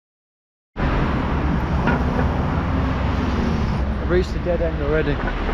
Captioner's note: traffic bustling